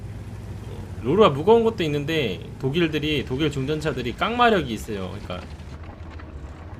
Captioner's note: engine